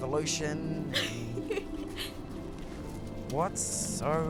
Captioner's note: Ellie laughs